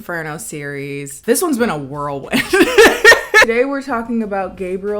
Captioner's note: laughs